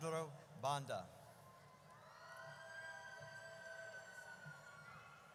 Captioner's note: audience cheers